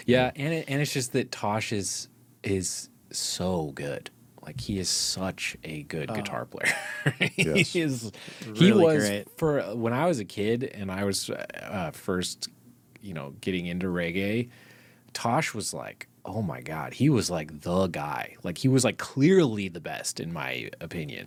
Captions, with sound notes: Yeah, and it's just that Tosh is so good. Like he is such a good guitar player. (laughs) Yes. He is really great. When I was a kid and I was first getting into reggae, Tosh was like, oh my God, he was like the guy. Like he was like clearly the best in my opinion.